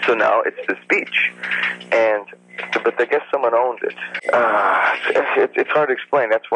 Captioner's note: sighs